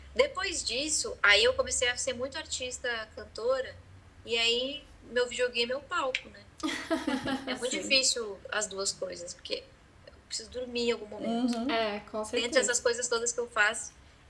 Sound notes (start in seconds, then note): 6.6 laughter